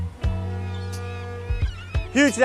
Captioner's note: hopeful music; boat horn honking